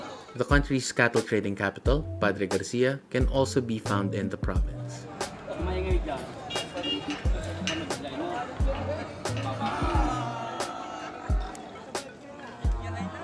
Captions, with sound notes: The country's cattle trading capital, Padre Garcia, can also be found in the province. (people talking)